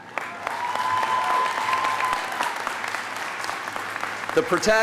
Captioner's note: audience applauding